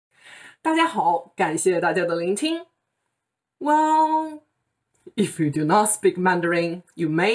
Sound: speaks in Mandarin

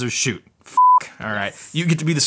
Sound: beep

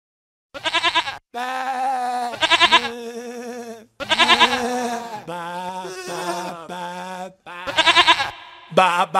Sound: sheep baa

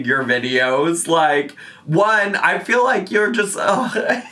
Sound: laughing

